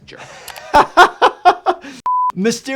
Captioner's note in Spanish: se ríe